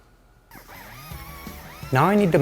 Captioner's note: tool whirs; intense rock music